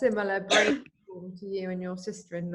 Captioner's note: coughs